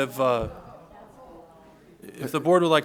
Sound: chatter

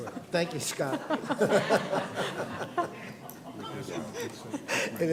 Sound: laughter

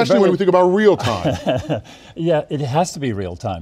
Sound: laughing

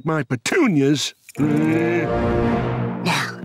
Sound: growling

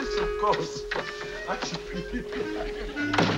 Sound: laughing

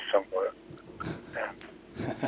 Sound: laughs

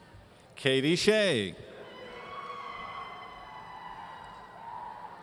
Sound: audience cheering

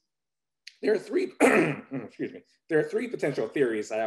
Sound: clears throat

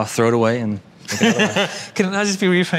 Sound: Tan laughs

